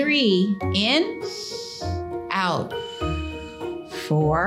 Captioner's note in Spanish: inhala bruscamente; Silbido de respiración